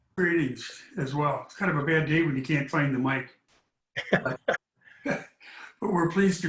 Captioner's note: laughter